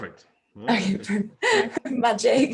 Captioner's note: laughs